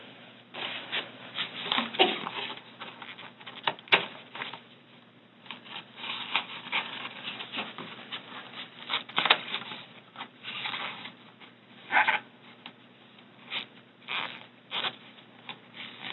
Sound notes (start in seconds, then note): 1.3 packaging creaks and squeaks